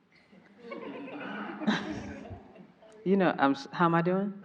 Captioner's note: everyone laughing